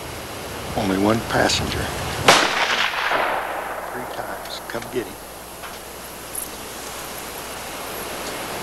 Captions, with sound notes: >> Only one passenger. (gunshot) >> Three times, come and get him.